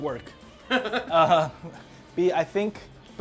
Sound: laughing

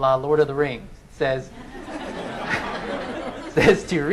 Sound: laughing

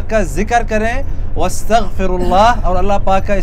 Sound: Arabic

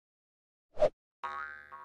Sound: spring bouncing

